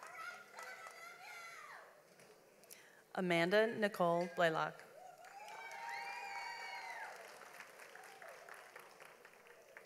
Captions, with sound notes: Amanda Nichole Blalock. (audience applauds)